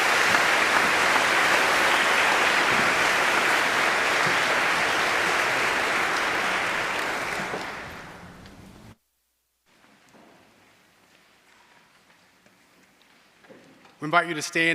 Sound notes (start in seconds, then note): 1.8 applause